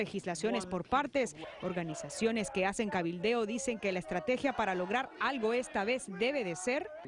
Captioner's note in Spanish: habla en ingés